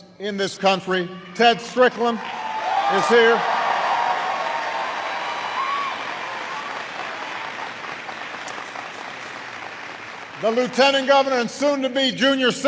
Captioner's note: applause